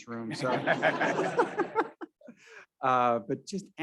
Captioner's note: all laughing